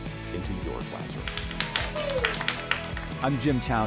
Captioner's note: students applauding